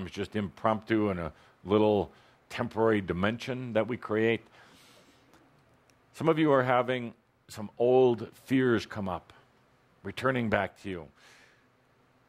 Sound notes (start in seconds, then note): none